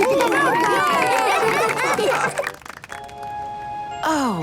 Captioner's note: cheering, applause